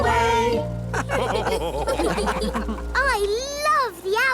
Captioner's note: all laugh